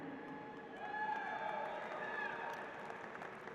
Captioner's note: applause